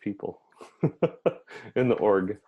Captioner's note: laughs